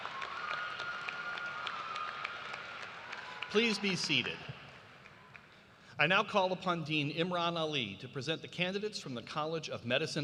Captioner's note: cheers and applause